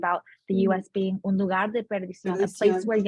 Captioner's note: speaking Spanish